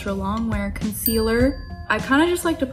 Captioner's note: chiming bell